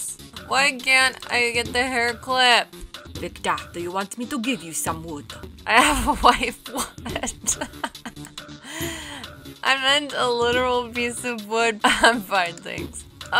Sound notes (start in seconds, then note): 5.8 chuckling